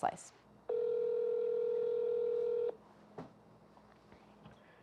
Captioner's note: phone ringing